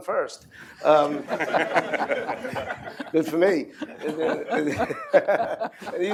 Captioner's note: laughter